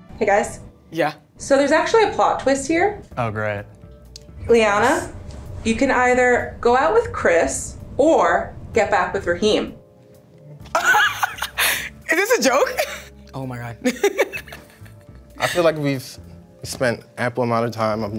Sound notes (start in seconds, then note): 10.7 laughs; 13.8 chuckles